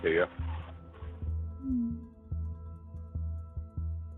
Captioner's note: messages blipping